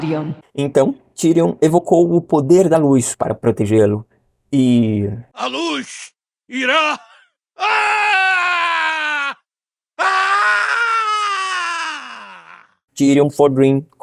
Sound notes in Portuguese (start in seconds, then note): 9.9 gritos de agonia